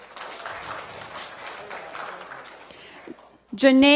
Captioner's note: applause